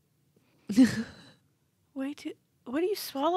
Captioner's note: chuckles